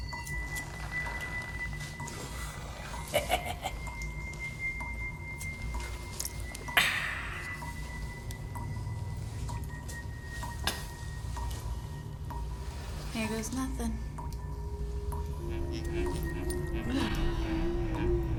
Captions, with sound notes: (risas) - Ah. - Aquí va nada. Ugh.